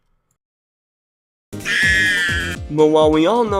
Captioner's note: high-pitched scream